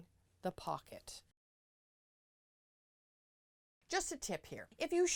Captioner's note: no Sound Present